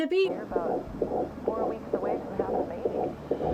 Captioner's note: heartbeat pounding